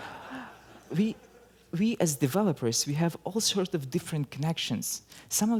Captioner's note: laughter